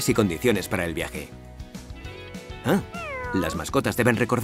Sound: miaow

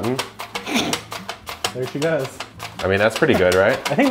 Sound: laughing

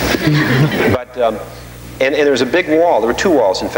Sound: audience laughing

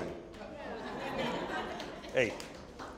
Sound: audience chuckling

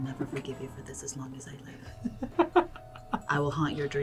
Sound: laughs

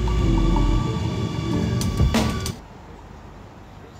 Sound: train squeaks

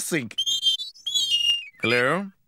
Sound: whistling!

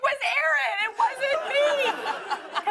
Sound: laughter

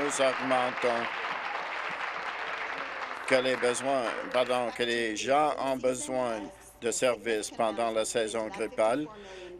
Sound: applause

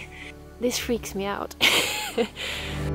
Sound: laughs

